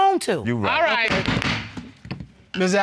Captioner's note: gavel pounding